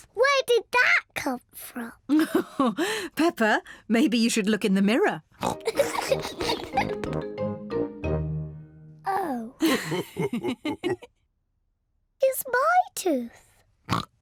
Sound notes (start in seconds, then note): 2.3 laughs; 5.4 oinks and giggles; 9.6 both laugh; 13.9 oinks